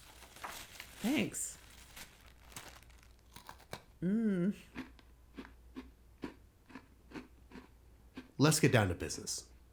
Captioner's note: rustling of paper and plastic; crunches cookie